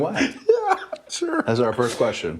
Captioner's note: laugh